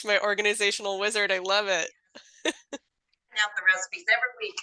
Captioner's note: laughs